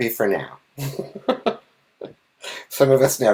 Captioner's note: laughing